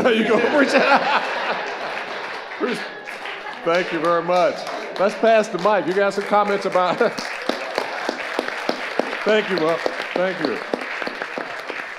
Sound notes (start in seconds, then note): 0.0 all laughing; 0.2 audience applauding; 7.7 laughs and claps his hands